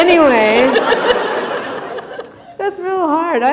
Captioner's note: chuckle